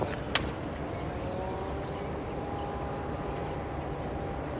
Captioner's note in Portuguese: Som ambiente